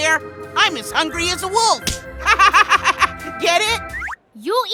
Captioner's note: laughs